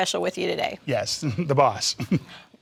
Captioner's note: laughter